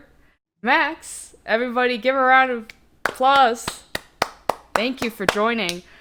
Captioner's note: round of applause